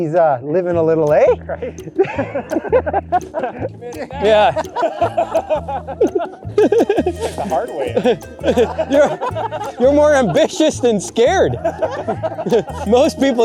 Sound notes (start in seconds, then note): 2.1 laughter; 4.9 laughter